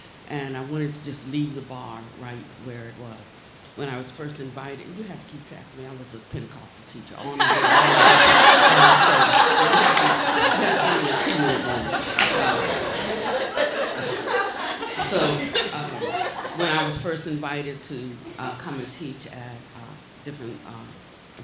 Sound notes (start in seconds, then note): 10.0 laughing